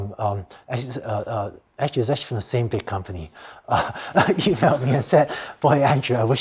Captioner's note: laughter